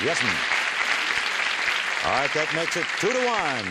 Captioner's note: applause